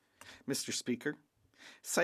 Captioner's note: speaking French